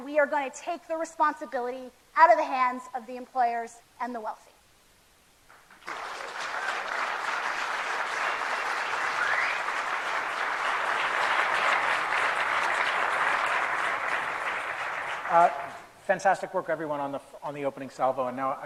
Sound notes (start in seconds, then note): 5.4 applause